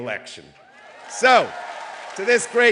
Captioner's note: cheering